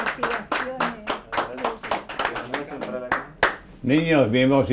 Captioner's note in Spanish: aplausos